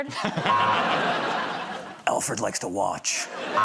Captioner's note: laughter